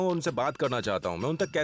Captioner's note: speaking in foreign language